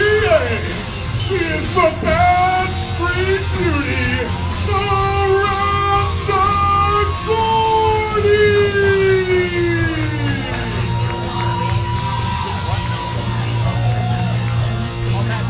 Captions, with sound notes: She is the Badstreet Beauty, Miranda Gordy! (audience cheering) (rock music)